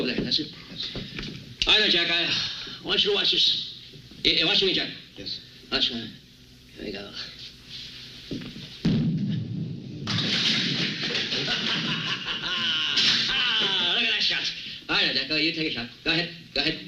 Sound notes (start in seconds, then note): 10.0 pins falling down; 11.1 laughing